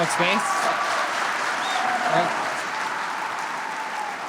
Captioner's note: audience cheers